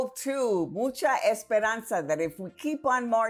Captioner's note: speaking in foreign language